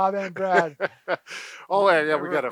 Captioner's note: laughs